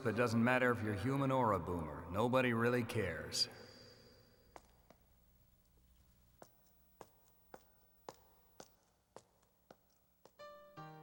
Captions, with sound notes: It doesn't matter if you're human or a Boomer. Nobody really cares. (footsteps tap)